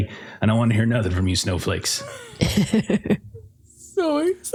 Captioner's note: laughter